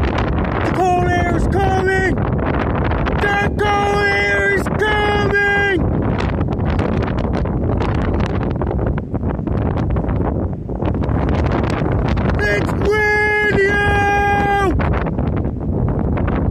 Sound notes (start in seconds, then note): 5.9 more boring wind sounds